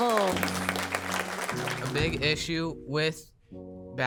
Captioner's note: crowd applauds